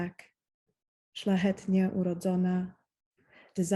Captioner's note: speaking Polish